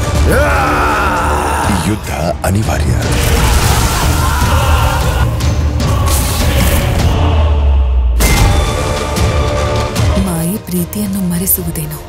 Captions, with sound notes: [roaring] This war is inevitable. [soldiers shouting] Magic might make one forget love.